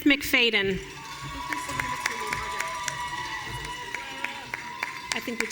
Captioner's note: audience cheering